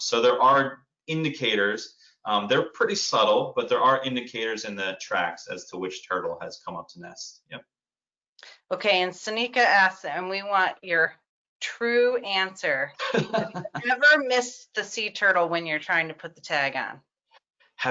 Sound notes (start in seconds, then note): 13.0 laughs